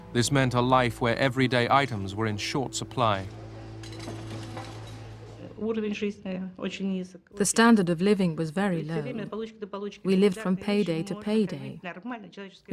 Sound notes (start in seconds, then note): 4.5 speaking Russian